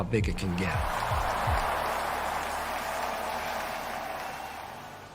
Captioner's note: cheering